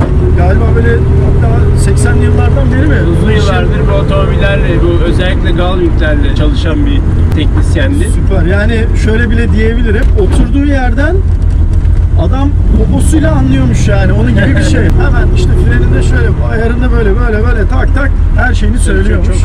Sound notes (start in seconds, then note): 14.4 laughings